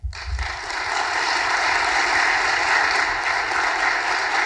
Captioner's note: audience applauding